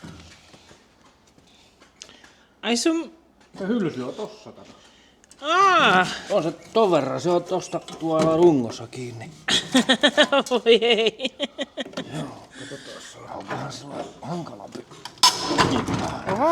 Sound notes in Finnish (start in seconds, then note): 9.2 naurua